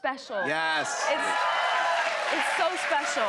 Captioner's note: cheers and applause